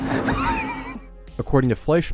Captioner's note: laughter